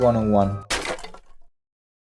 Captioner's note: crack